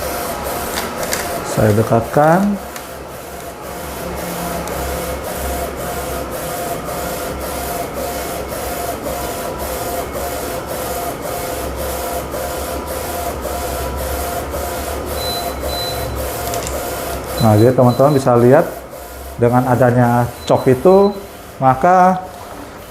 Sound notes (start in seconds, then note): 0.5 printer machine noise; 1.7 tripod noise; 3.4 printer machine noise; 16.9 printer machine noise